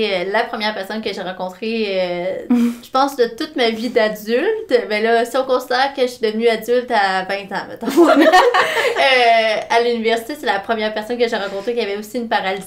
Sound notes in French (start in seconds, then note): 7.8 rires